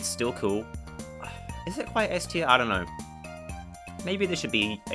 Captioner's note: sigh